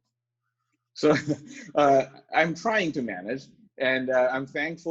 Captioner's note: laughs